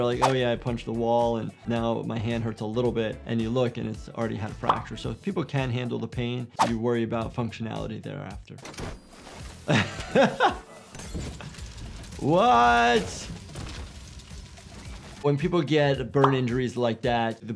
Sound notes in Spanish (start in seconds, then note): 11.0 Molotov explotando; 11.7 fuego crepitante